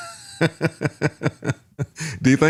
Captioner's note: laughing